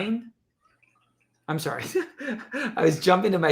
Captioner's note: chuckles